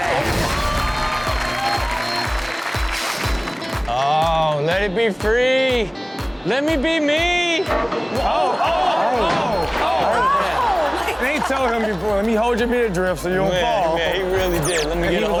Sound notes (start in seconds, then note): 0.0 audience applauding; 8.1 audience exclaims